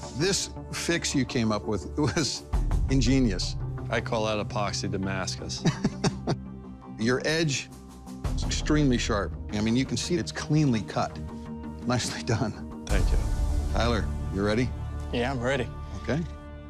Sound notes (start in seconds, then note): 5.6 laughs